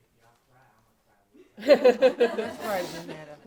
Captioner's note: laughing